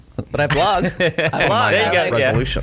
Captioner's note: chuckles